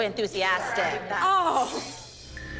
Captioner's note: laughs